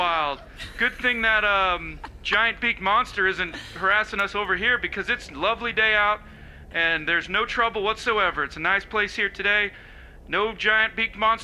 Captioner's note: laughter